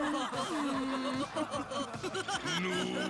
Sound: laughing; groaning

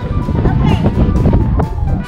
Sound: wind whooshing

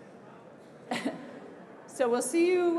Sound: laughs

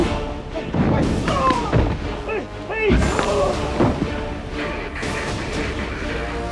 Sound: men shouting; men chattering

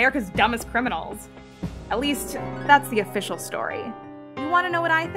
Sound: flashback ripple

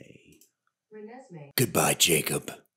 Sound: siri voice

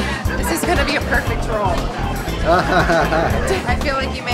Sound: laughter

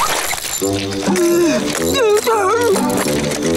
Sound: grunting

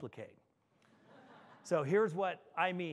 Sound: audience laughing

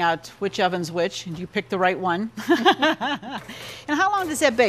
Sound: laughs

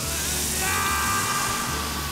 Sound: screaming

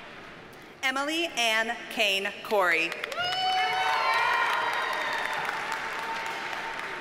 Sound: audience cheers and applauds

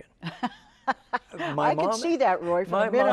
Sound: laughs

